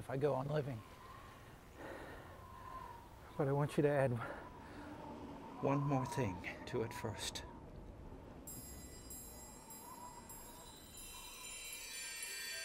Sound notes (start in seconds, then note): 8.2 wind whistles